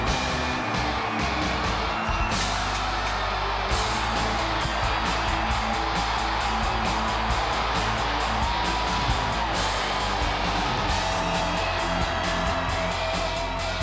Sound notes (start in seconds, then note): 3.9 crowd cheers